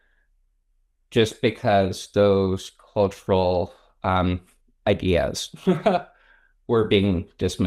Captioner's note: laughs